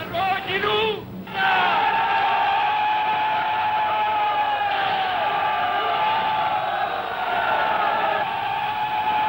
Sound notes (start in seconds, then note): 0.1 yelling in foreign language; 1.2 soldiers yelling